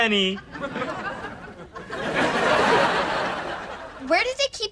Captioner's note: audience laughter